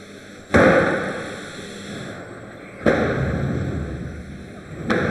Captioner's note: doors clunking